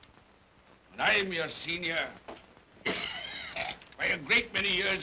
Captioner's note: Scrooge coughs